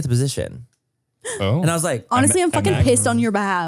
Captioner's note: gasps